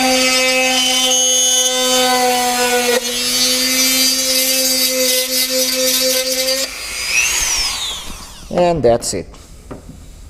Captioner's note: drilling sound